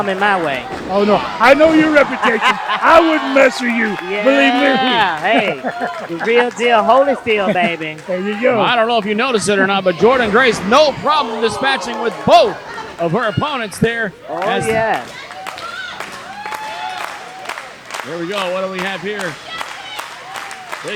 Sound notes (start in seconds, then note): 14.2 crowd clapping